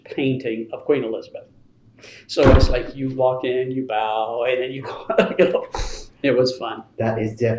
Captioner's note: laughs